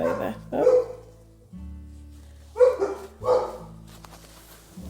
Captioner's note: dogs barking